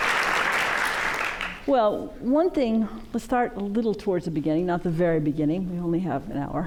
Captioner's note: applause